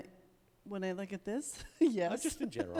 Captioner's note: laughs